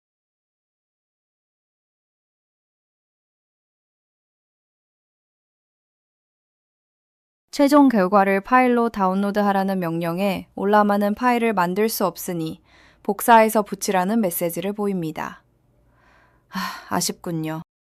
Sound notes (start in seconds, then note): 16.5 sighs